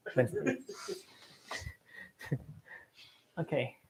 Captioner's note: laughter